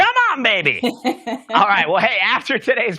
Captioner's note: laughs